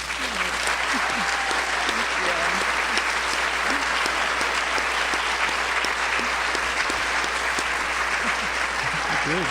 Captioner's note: applause and cheering